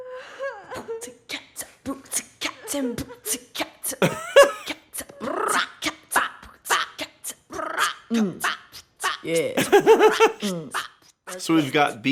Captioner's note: beatboxing